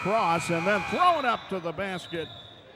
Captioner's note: buzzer sounds